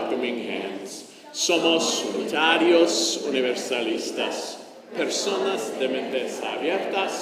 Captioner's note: church speaking in foreign language